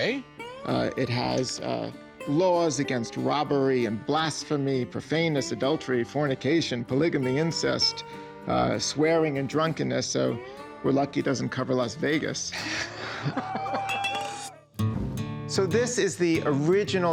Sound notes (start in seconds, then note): 12.5 Rick snickers